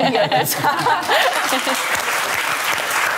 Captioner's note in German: Lachen, Applaus